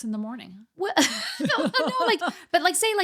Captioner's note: laughing